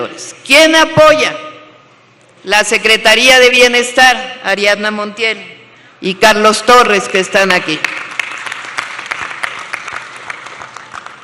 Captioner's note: applause